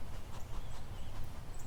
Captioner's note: dog panting